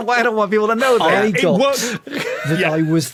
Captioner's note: wheezes